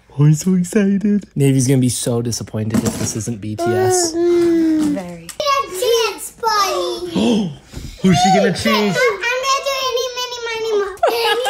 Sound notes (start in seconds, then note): 7.2 gasping; 10.7 laughing